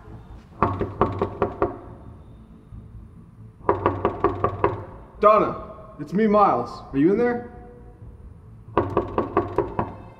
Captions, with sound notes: [knocking] [knocking] Donna it's me Miles, are you in there? [knocking]